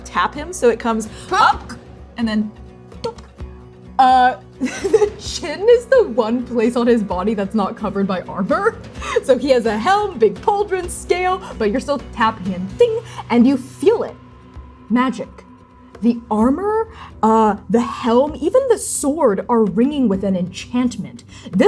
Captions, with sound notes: "tap him," so it comes, up, and then... - Hnng! Donk! Uh... [laughing] The, the chin is the one place on his body that's not covered by armor. So he has a helm, big pauldrons, scale, but you're still tapping and, ding, and you feel it. Magic. The armor, the helm, even the sword are ringing with an enchantment.